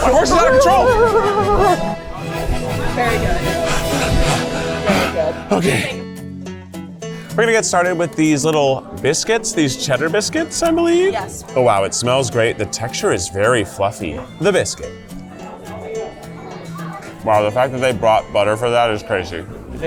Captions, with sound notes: My horse is out of control! (exhales) Okay. We're gonna get started with these little biscuits. These cheddar biscuits, I believe. Oh wow, it smells great. The texture is very fluffy. The biscuit. Wow, the fact that they brought butter for that is crazy.